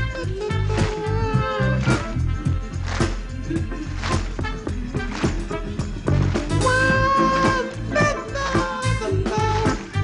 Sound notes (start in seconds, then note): 6.5 vocalizing